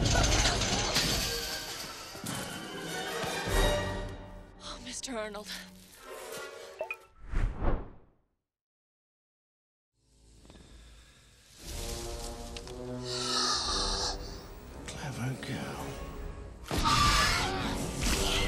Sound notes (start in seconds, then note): 0.0 dramatic music; 0.1 fence clattering; 11.8 tense music; 13.1 dinosaur snorts; 16.4 dinosaur screeches; 16.8 yells